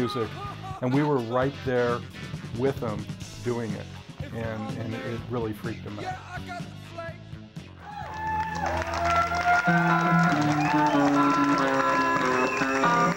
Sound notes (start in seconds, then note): 7.8 cheers and applause; 9.3 blues music playing